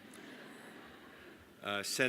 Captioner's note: laughter